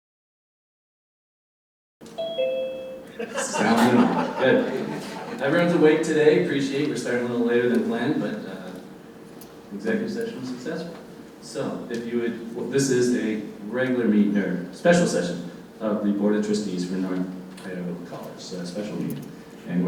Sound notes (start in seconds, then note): 2.0 doorbell ringing; 3.1 laughter